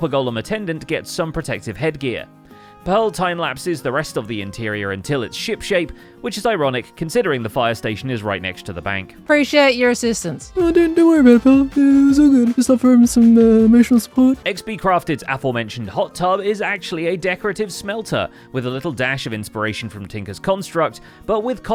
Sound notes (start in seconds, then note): 10.2 mumbling, as Mumbo